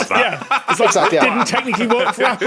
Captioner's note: laughs